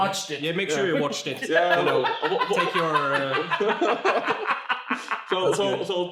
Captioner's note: laughs